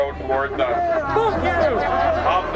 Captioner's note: laughter